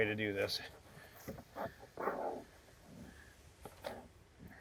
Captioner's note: molder rustling